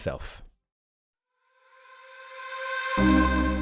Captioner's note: voiceover